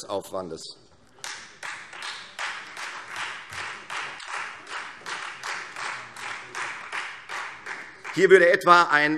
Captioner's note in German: Beifall Freie Demokraten